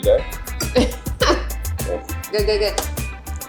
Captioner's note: laughs